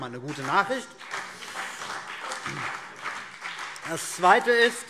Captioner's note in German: Beifall CDU und BÜNDNIS 90/DIE GRÜNEN